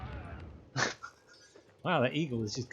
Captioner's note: baffled scoff